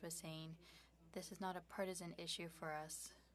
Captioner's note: speaking French